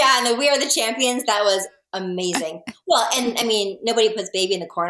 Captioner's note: laughs